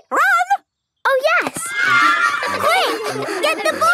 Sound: excited cheering

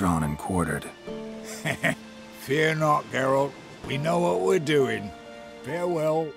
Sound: laugh

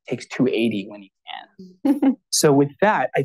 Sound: laughs

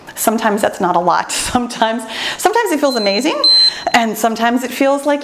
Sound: timer beeps

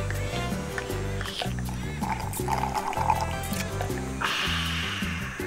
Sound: slurping; sighing

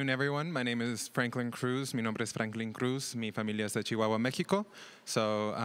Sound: speaks another language

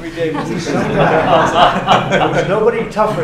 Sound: laughter

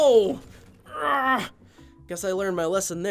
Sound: groaning

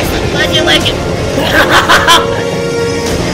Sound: both laugh

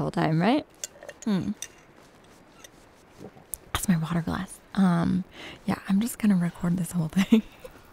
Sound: clinking of metal straw in a glass

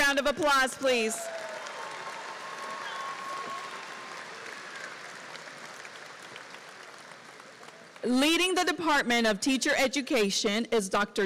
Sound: applause

